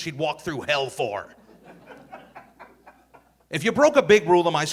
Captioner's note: audience laughing